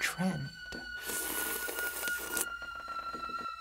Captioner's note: slurps